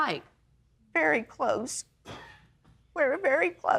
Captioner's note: man in audience coughs